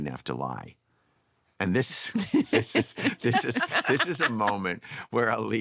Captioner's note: laughter